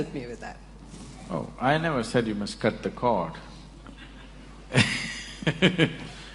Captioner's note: laughs